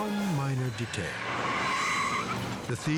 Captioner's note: tires screech